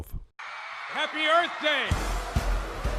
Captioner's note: kalabalık çığlık atıyor